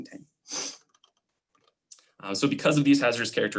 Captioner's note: clicking